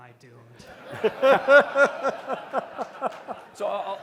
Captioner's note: laughter